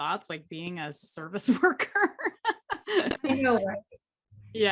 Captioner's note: laughs